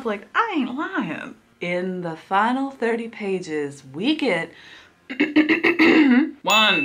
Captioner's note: clears throat